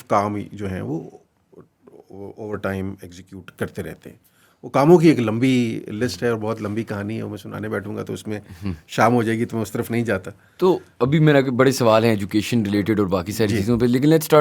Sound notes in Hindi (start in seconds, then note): 8.6 गला साफ़ करने की आवाज़